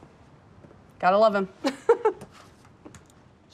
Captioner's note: giggles